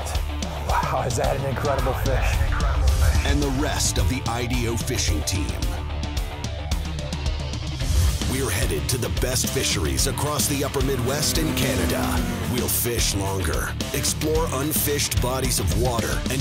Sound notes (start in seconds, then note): 3.6 voiceover